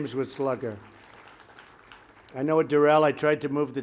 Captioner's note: applause